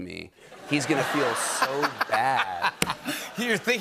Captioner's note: laughter